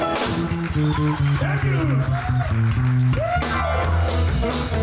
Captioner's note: audience cheers